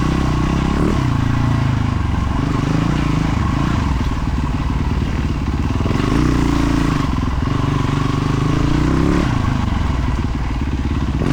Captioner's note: engine revving